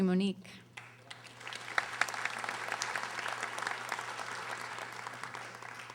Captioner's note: audience applauding